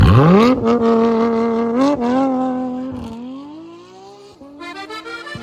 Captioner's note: engine revving